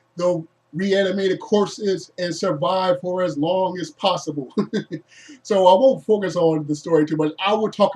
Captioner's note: laughs